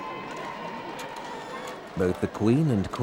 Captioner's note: crowds cheering; camera whirring